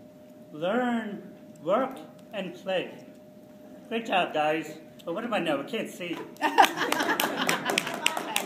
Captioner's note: laughter